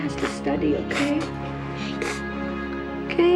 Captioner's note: molly sniffling